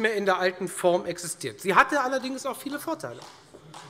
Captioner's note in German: Beifall